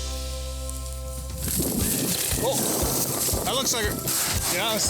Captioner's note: wings flapping